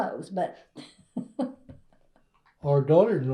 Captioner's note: laughs